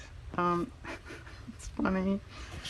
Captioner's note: laughs